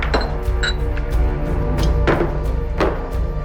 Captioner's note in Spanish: Sonidos al servir el licor